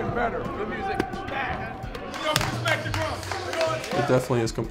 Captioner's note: team chatter and yelling